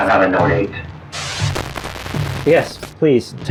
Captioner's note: glitch